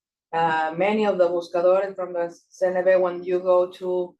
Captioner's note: speaking Spanish